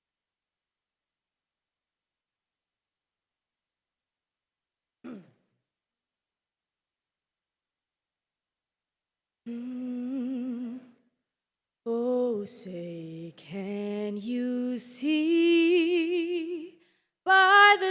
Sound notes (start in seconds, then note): 9.4 humming